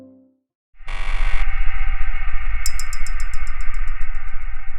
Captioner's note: screen buzzing